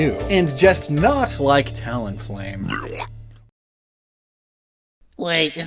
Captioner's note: vomit sound